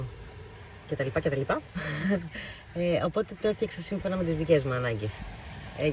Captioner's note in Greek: γέλια